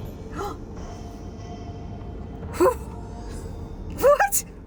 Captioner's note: gasps